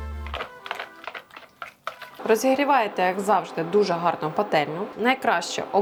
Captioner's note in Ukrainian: оплески